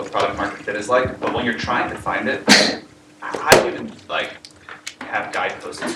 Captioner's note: cough